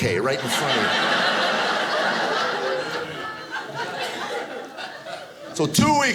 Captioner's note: audience laughing